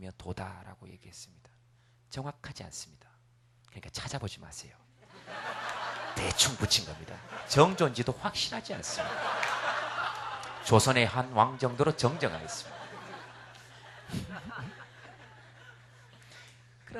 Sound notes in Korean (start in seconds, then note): 5.0 웃음